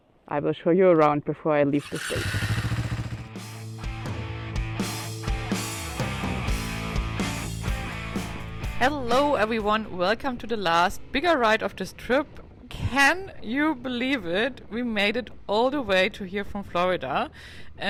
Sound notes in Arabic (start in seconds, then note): 1.7 تسريع محرك الدراجة النارية; 3.4 موسيقى مبهجة